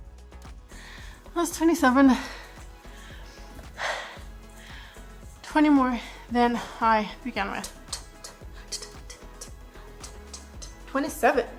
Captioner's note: breathes heavily